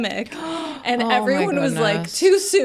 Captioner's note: gasps